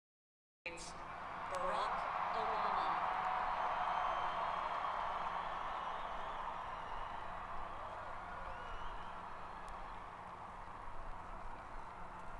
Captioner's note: cheering